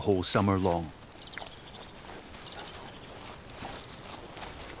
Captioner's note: birds twittering